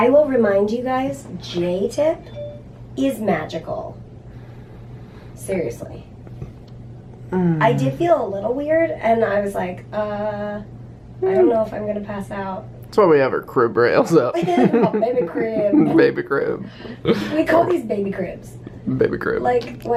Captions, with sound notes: But, I will remind you guys, J-Tip is magical Seriously I did feel a little weird, and I was like uhhh I don't know if I'm gonna pass out That's why we have her crib rails up (laughs) My baby crib. Baby crib. We call these baby cribs Baby crib